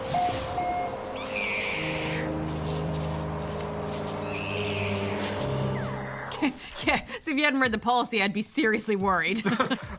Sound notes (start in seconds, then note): 0.8 squeaks; 4.3 squeaks; 6.3 laughs